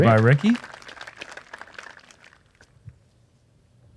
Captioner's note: applause